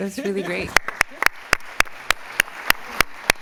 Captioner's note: applause